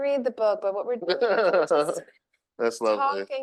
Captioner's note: laughter drowns speaker